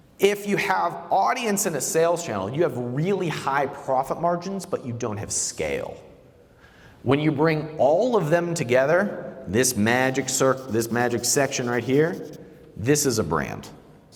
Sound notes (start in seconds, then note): none